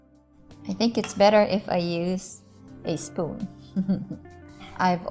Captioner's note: chuckles